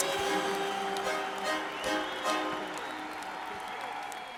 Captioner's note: fans cheering